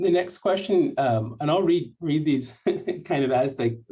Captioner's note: laughter